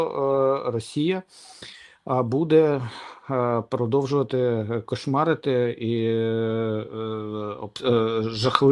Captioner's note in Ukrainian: сопіння